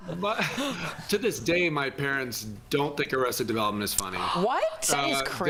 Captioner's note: laughter